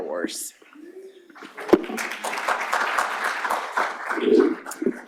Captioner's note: applause